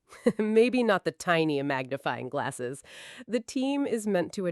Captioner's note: chuckles